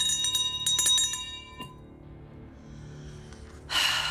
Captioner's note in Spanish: Campanilleo